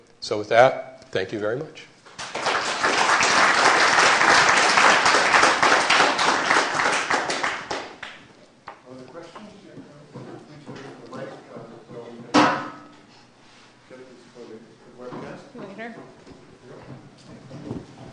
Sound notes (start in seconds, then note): 2.1 applause